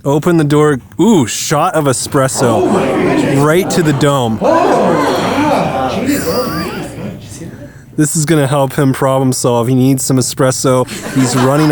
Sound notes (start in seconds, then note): 1.8 crowd gasping; 10.7 crowd laughing